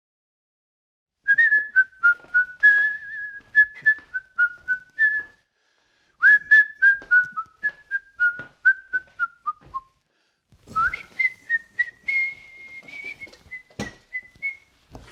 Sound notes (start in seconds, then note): 1.1 whistling sounds